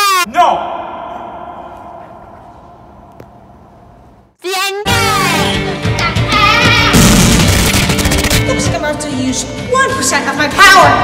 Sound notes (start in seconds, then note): 6.9 punchring sounds